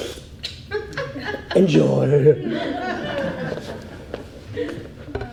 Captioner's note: audience laughs